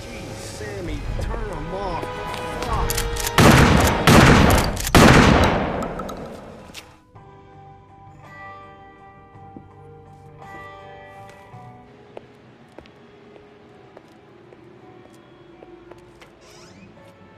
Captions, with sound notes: - Geez Sammy, turn them off. Fuck. (gun firing) (slow instrumental music)